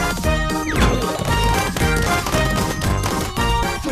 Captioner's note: flower pot banging rapidly